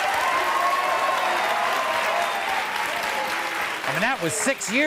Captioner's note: audience applause